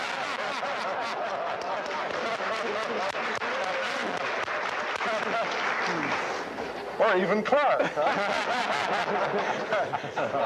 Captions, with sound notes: that we'd see a lot of Martians standing there with huge signs saying "Bradbury was right". (audience laughing) (audience applaud)